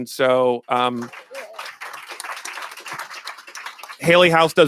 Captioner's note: applause